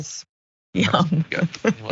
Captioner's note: laugh